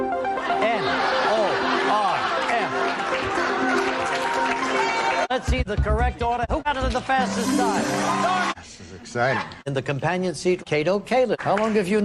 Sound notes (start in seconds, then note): 0.4 hearty laughter; 1.9 applause